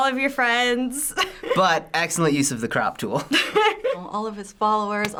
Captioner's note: laughs